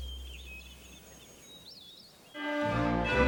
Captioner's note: birds tweeting; dramatic music